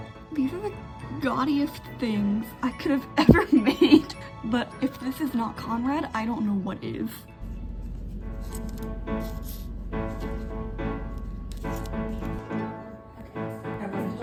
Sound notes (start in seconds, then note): 3.2 laughing